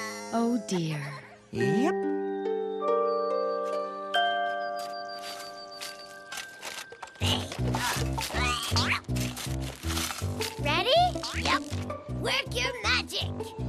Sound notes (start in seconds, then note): 7.1 struggles